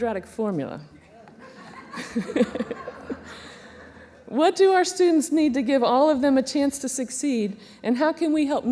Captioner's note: laughter